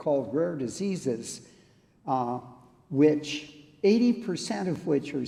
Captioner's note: none